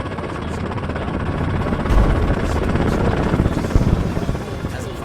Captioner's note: helicopter